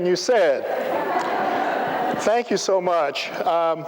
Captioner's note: laughter